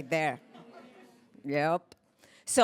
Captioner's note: laughter